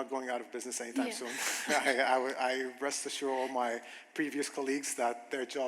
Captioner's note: chuckles